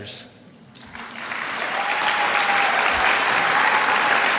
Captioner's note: applause